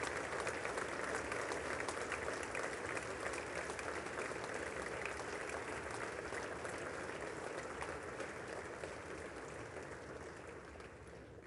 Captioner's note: applause